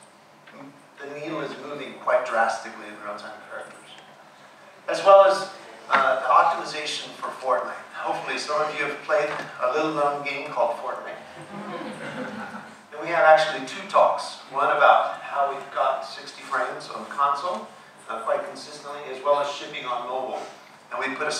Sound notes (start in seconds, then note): 11.3 audience laughing